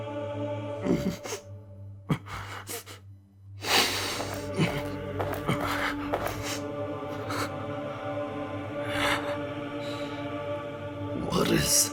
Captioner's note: light sobbing